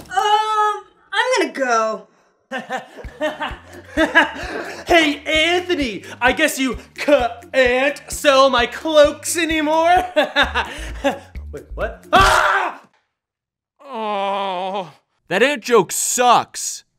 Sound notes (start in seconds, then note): 2.3 cackles; 12.1 screams; 13.8 moans in pain